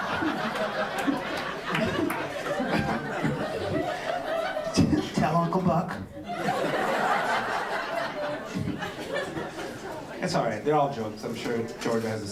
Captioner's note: laughter